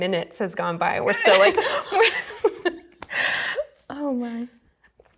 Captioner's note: laughing